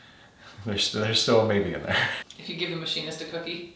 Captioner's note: laughing